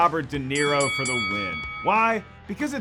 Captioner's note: bell dinging